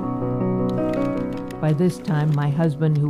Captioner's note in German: Klang der Tastatur